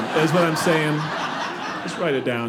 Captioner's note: audience laughing